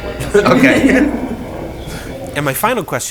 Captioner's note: laughs